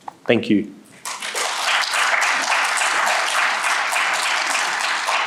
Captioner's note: audience applauds